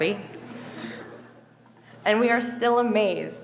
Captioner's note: audience laughing